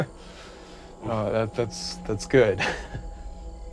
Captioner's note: laughs